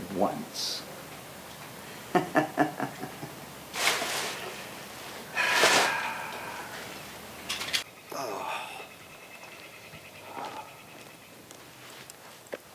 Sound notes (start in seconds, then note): 2.1 giggles; 5.3 sighs; 5.5 paper crackling; 9.4 birds chirping